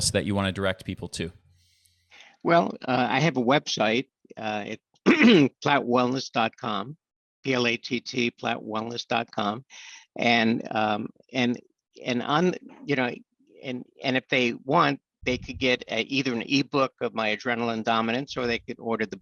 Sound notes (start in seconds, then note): 5.1 clears throat